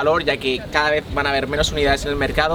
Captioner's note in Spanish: ruido de la ciudad